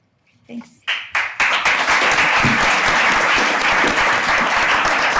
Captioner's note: audience applauding